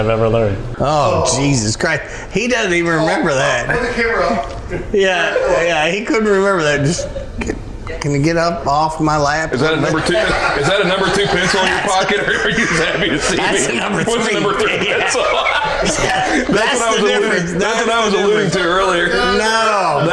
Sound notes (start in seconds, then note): 16.1 laughing